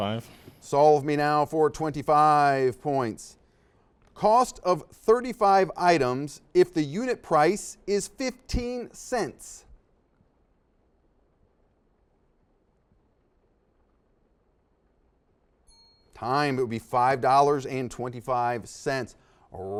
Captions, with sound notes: - Solve me. 25. - Solve me now for Twenty five points. Cost of 35 items. If the unit price is 15 cents. (silence) (dings) - Time it would be $5 and 25 cents.